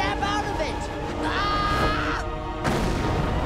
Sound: screaming

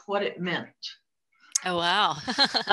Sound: laughs

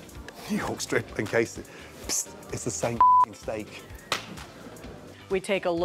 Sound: beep

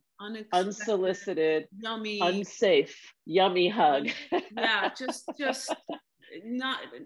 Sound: laughter

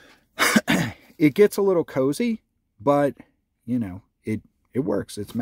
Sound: coughs

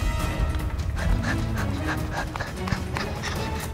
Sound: panting

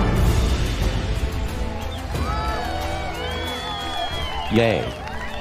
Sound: cheering

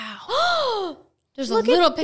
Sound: gasps

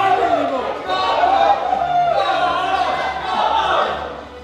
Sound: group cheering

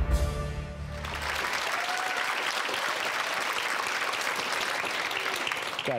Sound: audience claps and cheers

